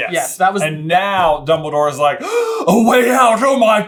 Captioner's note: gaaaasp!